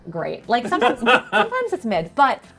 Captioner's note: laughing